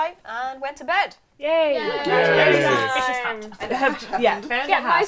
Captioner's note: cheering